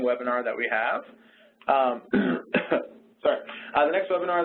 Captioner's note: clears throat